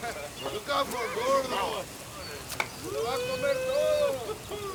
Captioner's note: Crecencio speaks Spanish; gang members chatter